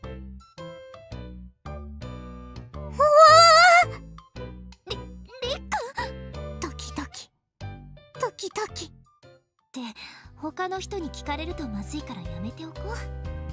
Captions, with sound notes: But Fumika-san! My yearning won’t stop! *panics* Let’s stop here. We’ll be in trouble in anyone overheard this.